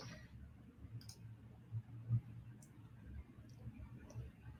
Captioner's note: mouse clicking